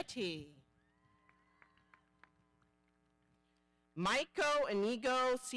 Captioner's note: audience applauding